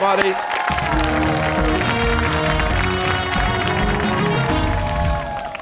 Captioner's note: cheers and applause